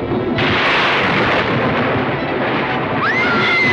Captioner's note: thunder crashing; Frances shrieking